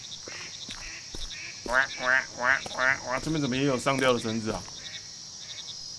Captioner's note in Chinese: 蛙叫